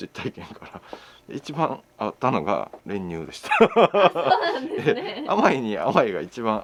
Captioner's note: laughs